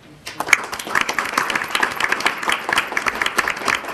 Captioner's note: crowd applauding